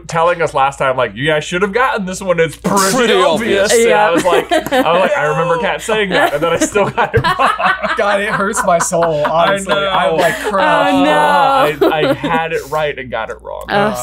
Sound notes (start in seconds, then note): 3.6 laughs; 7.5 laughing; 11.6 laughs